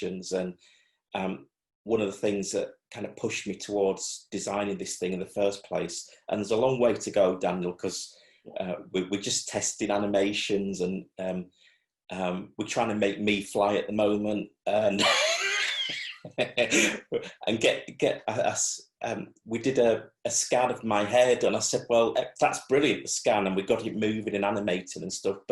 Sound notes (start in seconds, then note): 14.9 laughs